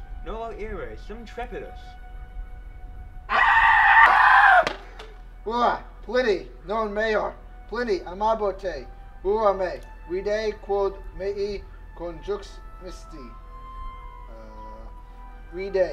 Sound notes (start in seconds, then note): 3.3 vigorous screaming